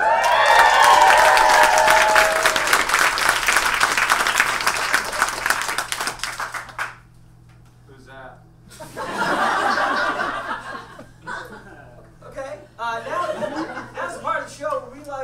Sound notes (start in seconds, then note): 0.0 audience cheers and applauds; 8.7 audience laughs